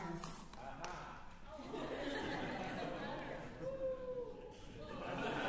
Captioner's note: chuckles